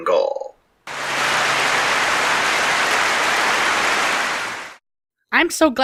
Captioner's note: clapping